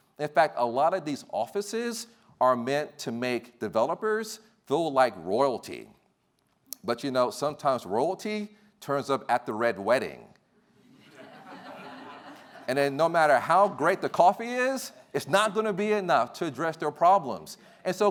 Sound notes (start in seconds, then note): 11.0 laughing